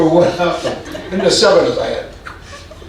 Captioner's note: audience laughing